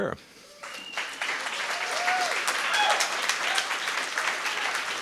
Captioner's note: audience applauding